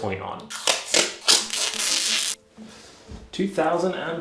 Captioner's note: tape ripping